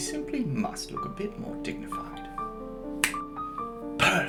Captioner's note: snap